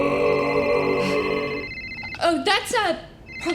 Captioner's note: phone rings